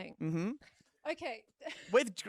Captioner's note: laughs